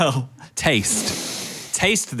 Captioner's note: laughs; sniffs